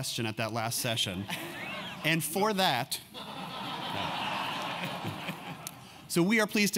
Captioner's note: laugh